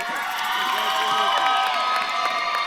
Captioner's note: audience claps and cheers